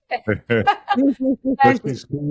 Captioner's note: laughing